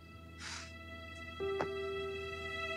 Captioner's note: Sighs